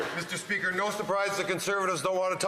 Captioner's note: some Applause